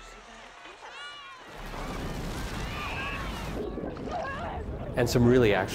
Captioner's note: children talking loudly on screen